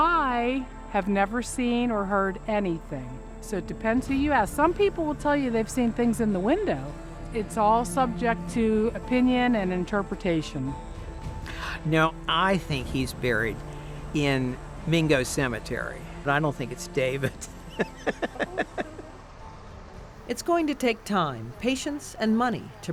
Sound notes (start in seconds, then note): 17.2 laughing